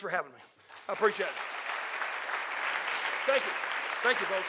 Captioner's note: audience applauding